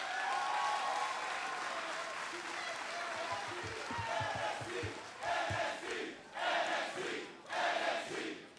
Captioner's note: crowd cheering